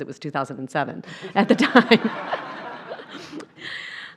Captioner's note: laughter